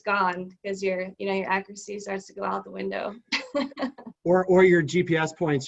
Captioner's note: chuckles